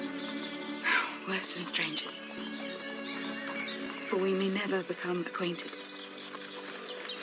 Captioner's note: sigh